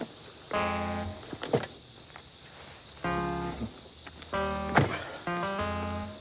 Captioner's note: door opening and closing